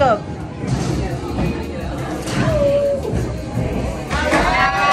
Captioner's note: people chattering